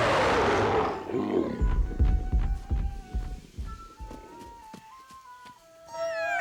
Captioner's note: Scarface snarls and growls; heavy foot steps; melody continues